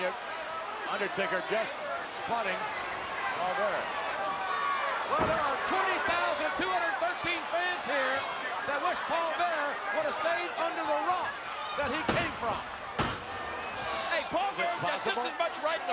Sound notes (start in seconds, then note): 12.0 hand pounding